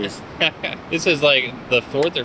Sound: laughs

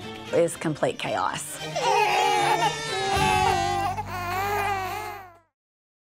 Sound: babies cry

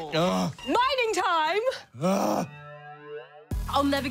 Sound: groans

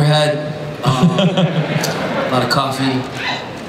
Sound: Chris laughs

